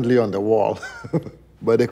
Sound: laughs

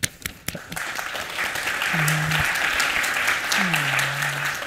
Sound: applause

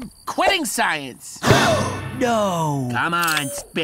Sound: all gasp

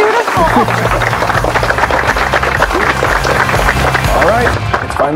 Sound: crowd clapping

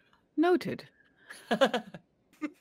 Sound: laughing

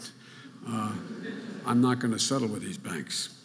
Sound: audience laughing

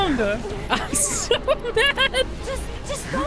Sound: laughing

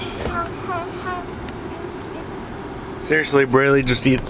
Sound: sighs

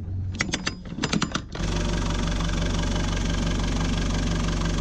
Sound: chain rattles

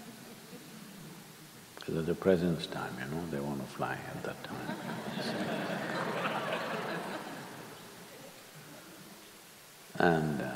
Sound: laughter

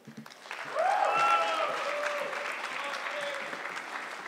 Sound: audience clapping

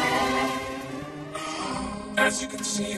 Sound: gasps

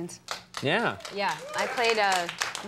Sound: audience applauding

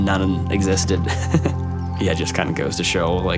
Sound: chuckling softly

